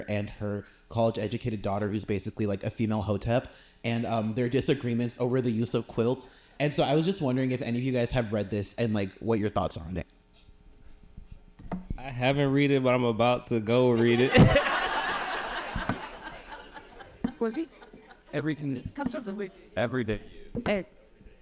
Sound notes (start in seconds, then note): 14.0 audience laughing